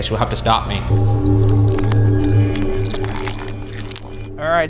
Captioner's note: deep ominous music; tape fast-forwarding